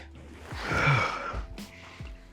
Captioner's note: exhales